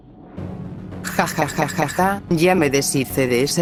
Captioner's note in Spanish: Riendo